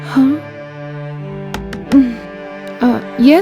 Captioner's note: door knock